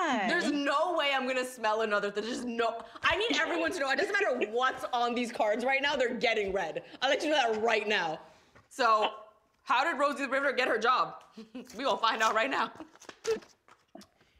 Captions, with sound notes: - There's no way I'm gonna smell another-- there's just no-- I need everyone to know, it doesn't matter what's on these cards right now. They're getting read. I'll let you know that right now. So how did Rosie the Riveter get her job? We gon' find out right now. [laughs]